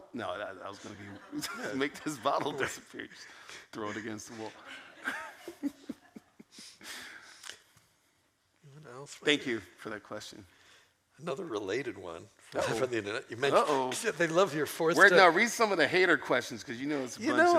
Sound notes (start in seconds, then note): 3.8 laughs